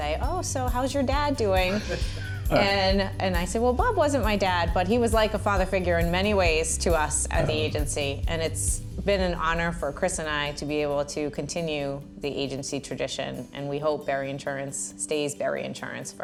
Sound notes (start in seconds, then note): 1.6 laughs